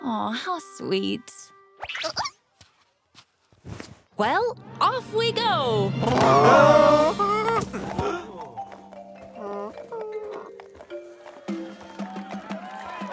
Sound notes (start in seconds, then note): 1.7 caterpillar noises; 5.7 groaning